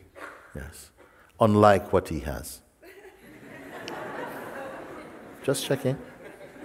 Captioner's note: laughter